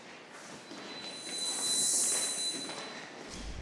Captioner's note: whooshes